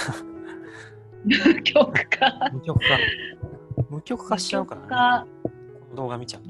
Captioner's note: laughs